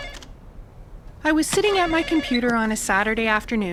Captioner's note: sound of phone ringing